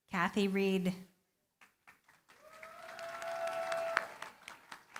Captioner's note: applause